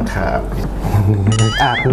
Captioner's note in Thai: หัวเราะ